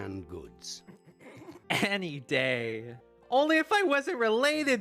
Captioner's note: stifled chuckling